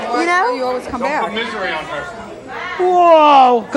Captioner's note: overlapping chatter